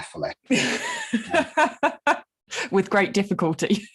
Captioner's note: laughing